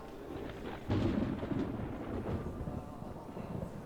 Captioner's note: distant rumble of thunder